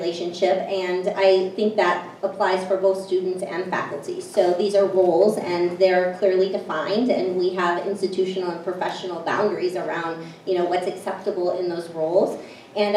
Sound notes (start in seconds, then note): none